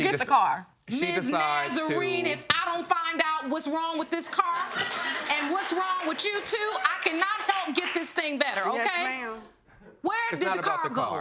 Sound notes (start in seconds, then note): 1.8 audience laughing